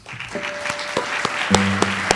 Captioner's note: audience applauds; light jazz music